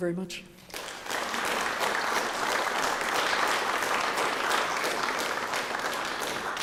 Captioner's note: applause